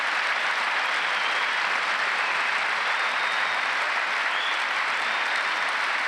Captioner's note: applause